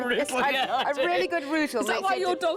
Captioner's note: laughing